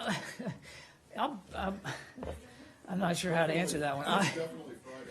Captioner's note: laughter